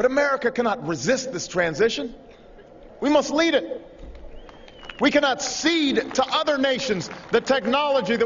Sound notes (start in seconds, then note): 6.2 applause